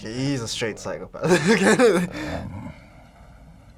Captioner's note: laughs